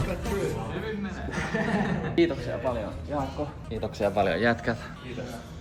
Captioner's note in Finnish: naurua